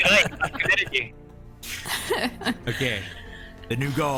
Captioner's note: laughter